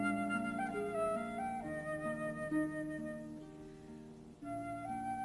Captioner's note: none